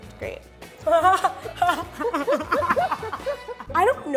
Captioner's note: laughing